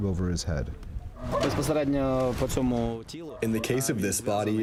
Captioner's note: through translator